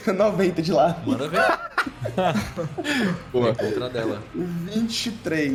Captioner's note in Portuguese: risos